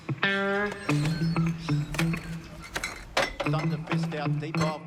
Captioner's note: glass bottles clink; dog whimpers